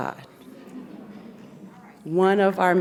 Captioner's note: audience laughs